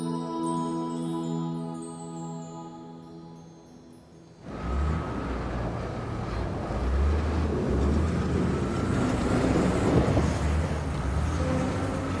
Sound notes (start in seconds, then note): 6.3 wind blows; 9.2 plows roar